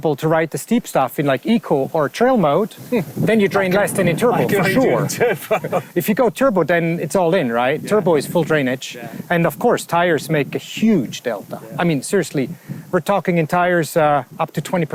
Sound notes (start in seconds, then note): 4.4 chuckles